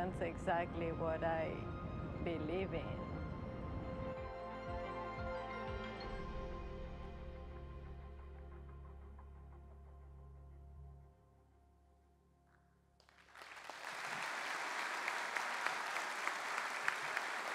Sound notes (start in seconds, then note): 3.0 low music playing; 10.9 applause